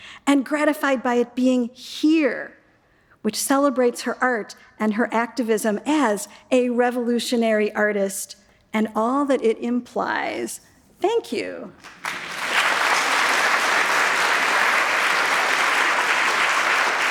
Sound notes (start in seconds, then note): 11.8 audience applauds